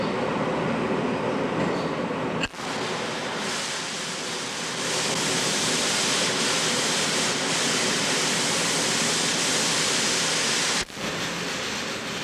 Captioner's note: background construction and welding noise